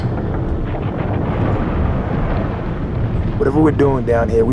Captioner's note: distant rumbling